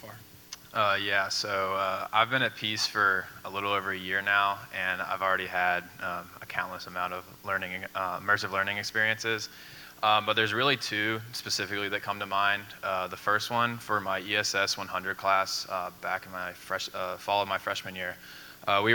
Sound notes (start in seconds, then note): none